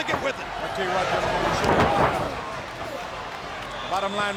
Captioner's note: Bobby faintly speaking; body thudding